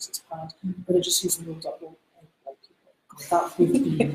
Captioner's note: laughs